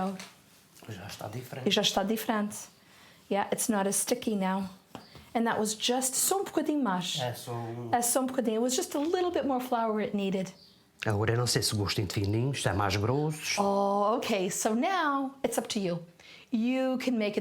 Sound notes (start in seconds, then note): 3.7 in foreign language